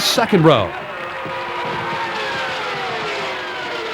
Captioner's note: cars whine